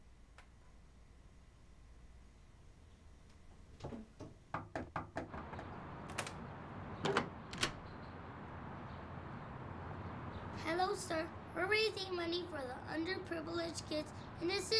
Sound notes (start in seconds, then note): 3.8 knocking continues